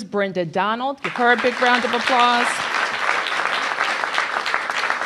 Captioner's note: applause